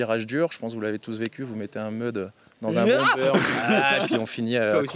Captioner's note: laughter